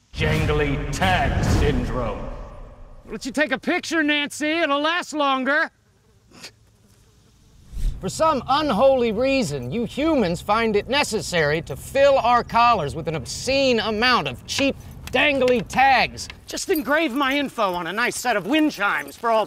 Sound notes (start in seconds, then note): 5.8 flies buzzing; 6.4 chuffs